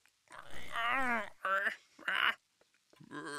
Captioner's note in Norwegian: lyspæren knitrer; Harald grynter